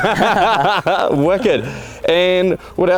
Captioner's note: laughing